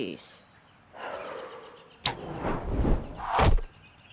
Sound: exhales

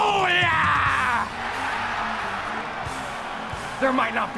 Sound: cheers, applause

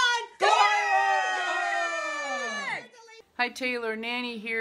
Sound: family whooping

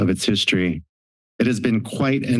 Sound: silence

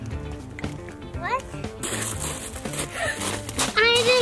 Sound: gasps

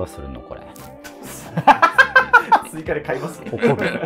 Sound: laughing

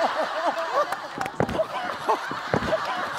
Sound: laughing

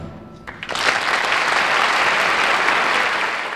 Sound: audience applauding

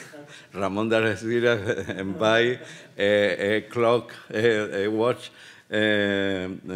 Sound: speaking Spanish

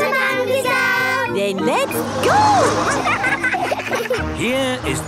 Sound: laughing

